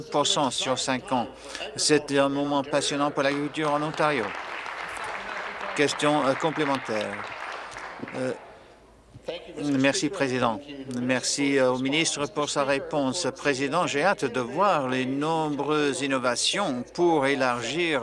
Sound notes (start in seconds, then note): 6.7 applause